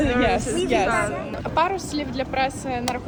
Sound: french noise

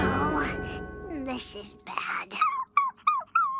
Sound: beckett whimpers

